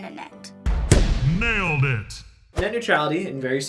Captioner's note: voice-over